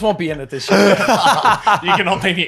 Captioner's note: laughing